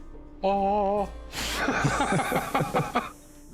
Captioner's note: laughter